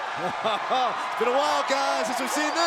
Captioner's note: laughs